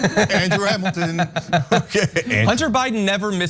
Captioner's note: laugh